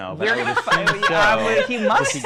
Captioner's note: laughing